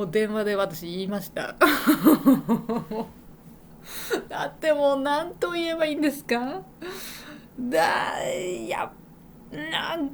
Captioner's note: laughs